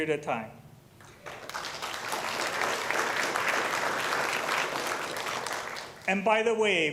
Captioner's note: applause